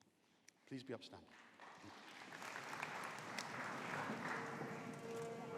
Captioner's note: audience applauding